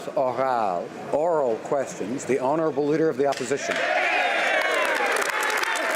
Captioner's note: applause; some Applause